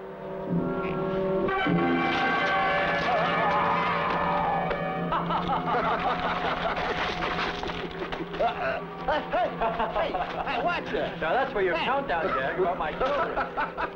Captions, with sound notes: (ominous instrumental music) (laughing) Hey! Hey, watch that! Now that's where your countdown jab hurt my feelings!